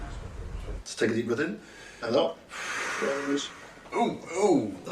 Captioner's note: Tejay exhales